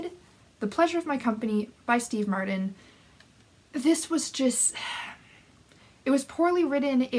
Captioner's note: sigh